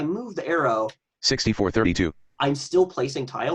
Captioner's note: computer Voice